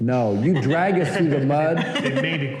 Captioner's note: laughter